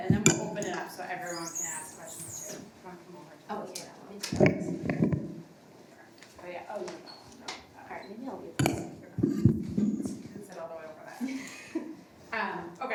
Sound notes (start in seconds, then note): 4.3 mic rattling and tapping; 11.6 host chuckles